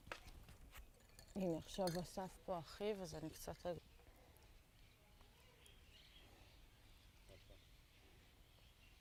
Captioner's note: hebrew